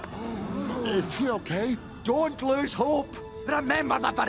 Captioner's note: mummies gasping